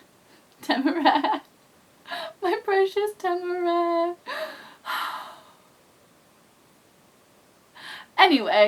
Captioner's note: sigh